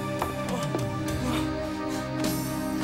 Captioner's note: groaning